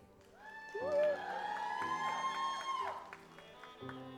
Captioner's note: audience applauds